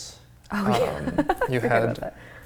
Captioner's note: laughs